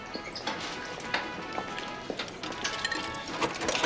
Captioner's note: none